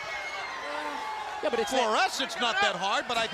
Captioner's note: crowd chatter